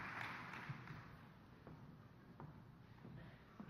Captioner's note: applause